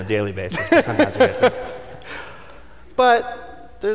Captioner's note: laughing